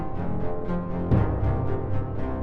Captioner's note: ominous cello music; boom; ominous cello music